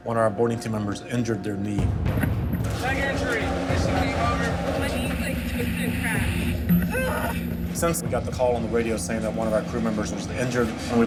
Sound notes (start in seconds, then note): 6.7 grunting in pain